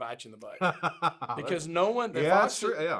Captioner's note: laughs